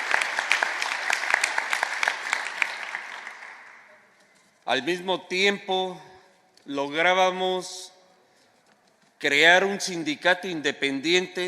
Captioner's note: applause; speaking spanish